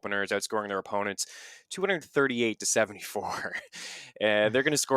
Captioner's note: laughs